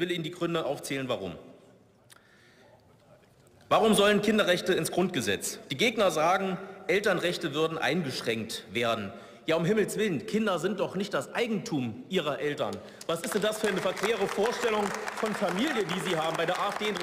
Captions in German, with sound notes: und ich will Ihnen die Gründe aufzählen, warum. Warum sollen Kinderrechte ins Grundgesetz? Die Gegner sagen, Elternrechte würden eingeschränkt werden. Ja um Himmels Willen, Kinder sind doch nicht das Eigentum ihrer Eltern! (Beifall) Was ist denn das für eine verquere Vorstellung von Familie, die Sie haben?